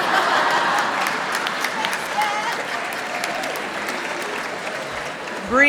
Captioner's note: laughs